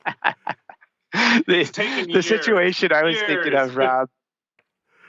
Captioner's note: laughter